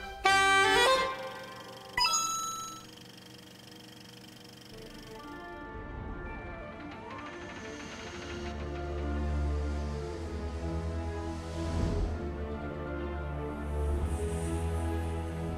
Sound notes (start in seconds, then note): 1.4 coin sound; 1.7 projector whirring; 7.1 gears grinding